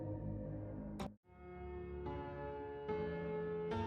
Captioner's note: "Drone Repair Complete" sound abruptly cut off by "Night Complete" music